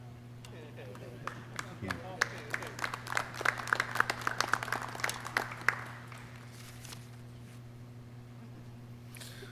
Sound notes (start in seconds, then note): 0.8 clapping